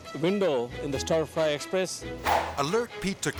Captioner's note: air swoosh